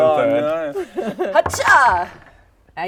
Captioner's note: hrrh-chaah!